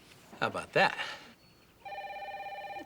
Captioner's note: cell phone ringing